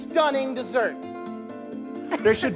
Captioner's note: coughs